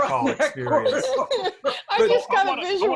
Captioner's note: laughs